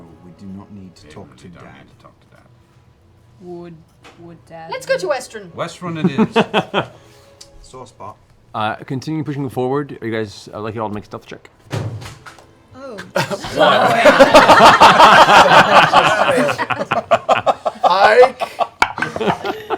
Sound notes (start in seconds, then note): 11.7 something clatters offscreen; 13.1 laughter